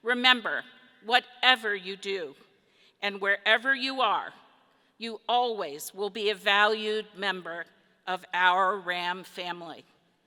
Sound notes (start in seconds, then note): none